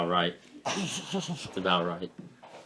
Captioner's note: laughing